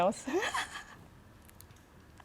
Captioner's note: laughs